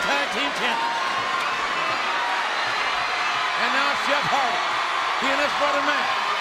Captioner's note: applause